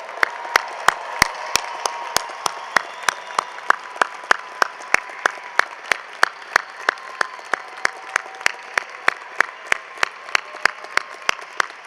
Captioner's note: cheering and applause